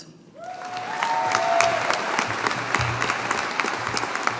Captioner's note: audience applauding